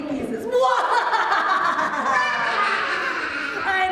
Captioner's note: laughing